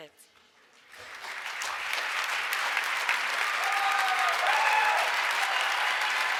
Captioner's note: audience cheers and applauds